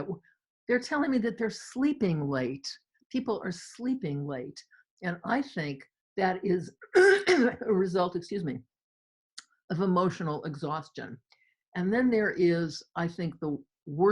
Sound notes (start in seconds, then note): 6.9 clears throat